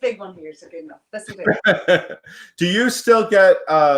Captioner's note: laughs